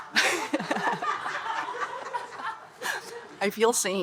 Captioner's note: participants and audience laughing